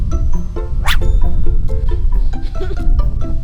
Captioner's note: zipping sound